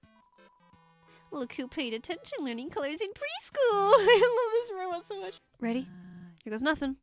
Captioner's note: laughs